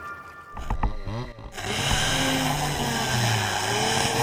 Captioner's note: saw buzzing